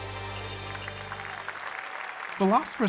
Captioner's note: applause